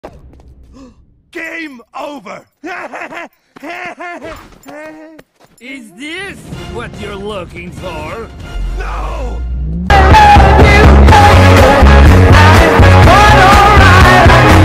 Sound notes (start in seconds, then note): 2.6 hysterical and annoying laugh